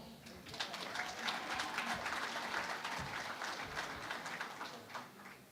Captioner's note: applause